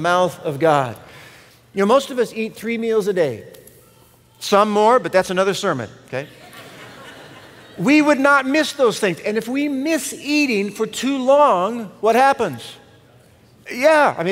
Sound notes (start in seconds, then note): 6.2 laughter